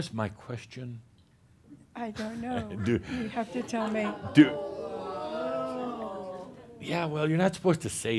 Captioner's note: audience says “Ohh!”